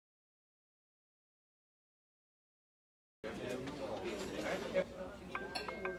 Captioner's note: restaurant patrons chatting; phone ringing